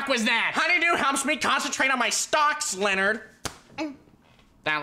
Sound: whimpers

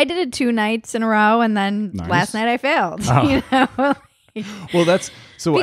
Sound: laughs

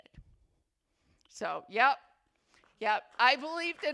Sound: attendees begin applauding

